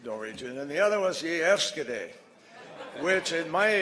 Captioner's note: In Norwegian; laughter